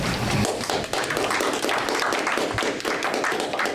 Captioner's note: audience applause